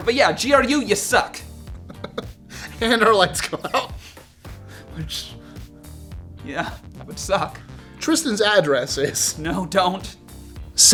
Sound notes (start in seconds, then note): 1.8 laughing